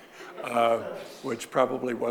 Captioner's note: audience laughing